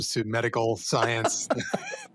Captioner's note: laughs